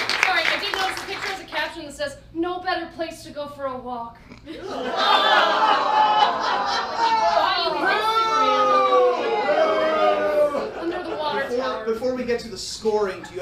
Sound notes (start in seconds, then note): 0.0 audience cheers; 4.5 audience laughs; 7.7 audience jeers